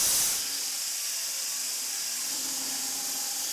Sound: sawing

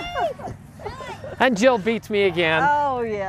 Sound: running laughter

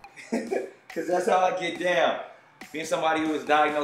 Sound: laughs

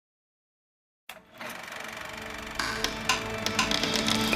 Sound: film reel clicking

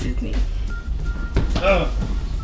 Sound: grunts

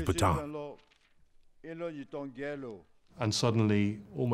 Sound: leader speaking in foreign language

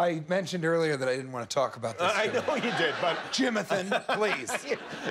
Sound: laughter

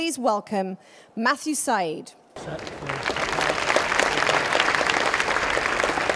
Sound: applause

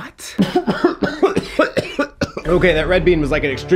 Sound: ISTP inhaling; ISTP coughing

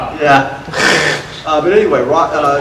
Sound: audience laughter

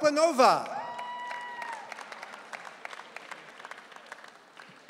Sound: audience cheering

